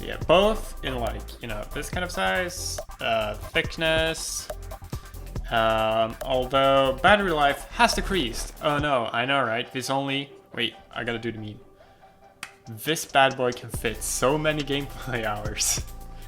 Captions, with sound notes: It has gotten smaller both in terms of footprint and thickness. Although, battery life has decreased. Oh no, I know right... Wait I gotta do the meme... *slaps tracker* This bad boy can fit so many gameplay hours.